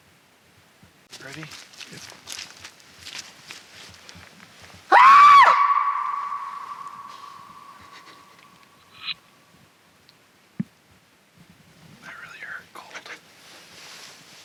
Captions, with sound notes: - Ready? - Yes. (leaves crunch) (investigator shouts) - That really hurt, cold.